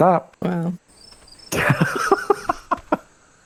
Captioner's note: crickets